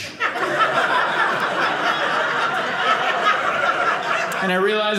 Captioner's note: audience laughing